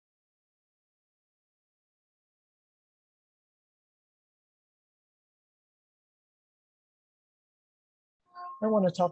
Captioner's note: silence